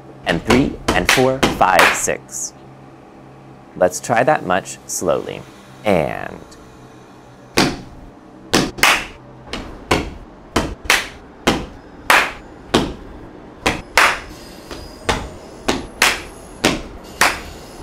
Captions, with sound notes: and three and four, five, six. Let's try that much slowly, and... (rhythmically stomping) (rhythmically clapping)